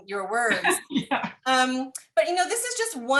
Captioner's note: laughter